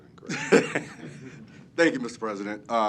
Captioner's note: laugh